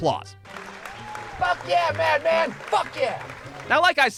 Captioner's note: cheers and applause